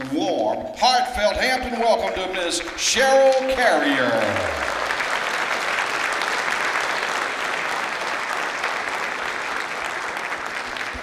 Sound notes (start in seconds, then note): 3.8 clapping